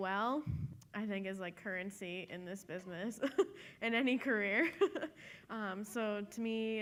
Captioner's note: laughs